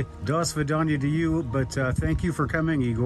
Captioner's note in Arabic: يتحدث بلغة أجنبية